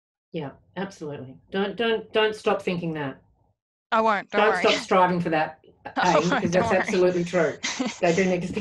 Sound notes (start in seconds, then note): 6.0 laughs